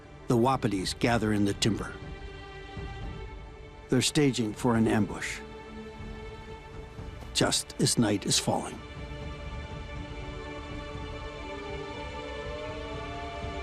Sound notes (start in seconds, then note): 8.8 light dramatic music; 10.3 wolves howling